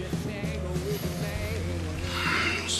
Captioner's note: sniffs deeply